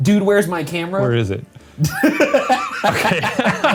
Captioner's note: laughs